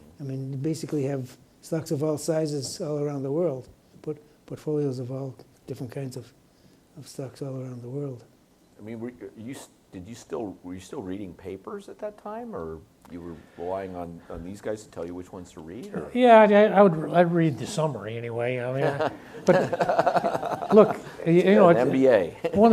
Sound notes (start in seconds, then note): 18.7 laughs